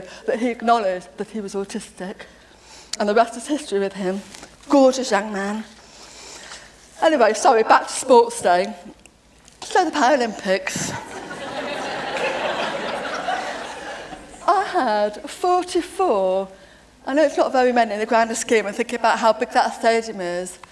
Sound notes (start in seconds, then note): 10.9 laughter